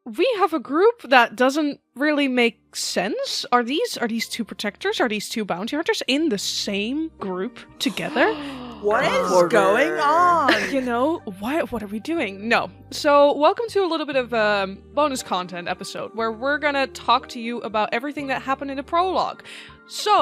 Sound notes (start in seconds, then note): 7.8 gasps; 7.9 shocked gasps from all